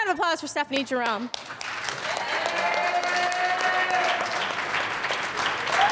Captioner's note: audience applauds and cheers